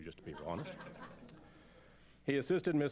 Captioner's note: laughter